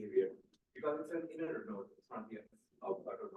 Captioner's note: speaking faintly